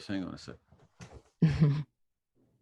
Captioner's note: chuckles